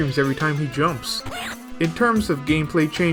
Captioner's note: scream